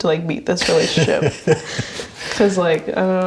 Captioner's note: chuckles